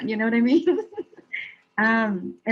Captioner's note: laughing